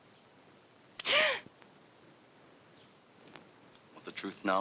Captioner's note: gasping